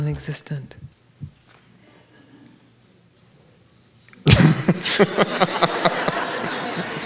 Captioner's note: he laughs